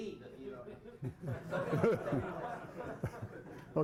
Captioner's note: laughter